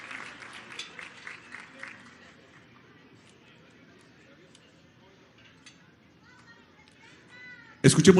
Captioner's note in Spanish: aplausos